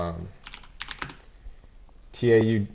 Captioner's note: keyboard clicking